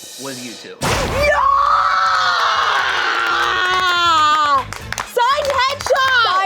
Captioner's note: cheering